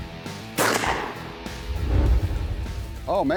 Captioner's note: gunshot